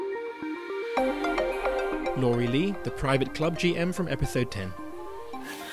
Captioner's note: voiceover